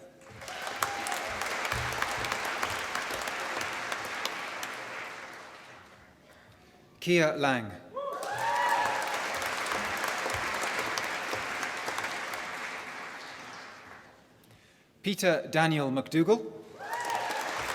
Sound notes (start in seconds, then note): 0.0 applause; 8.1 applause; 16.8 applause